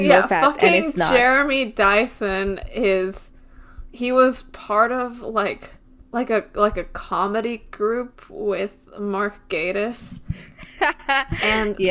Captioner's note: laughs